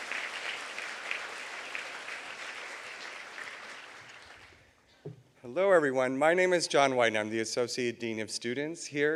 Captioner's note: applause